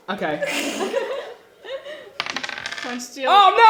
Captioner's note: laughs